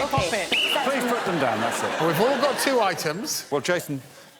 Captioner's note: blows whistle